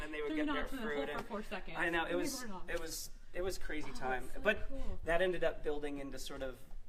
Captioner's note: laughter